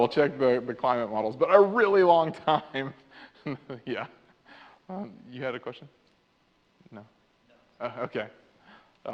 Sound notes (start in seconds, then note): 0.4 laughs